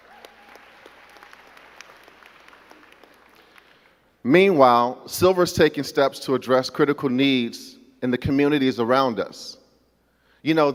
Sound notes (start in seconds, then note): 0.0 crowd clapping